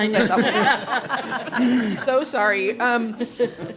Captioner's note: laughter